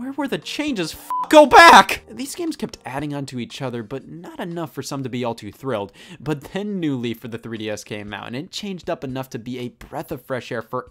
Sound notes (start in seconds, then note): 1.1 beeps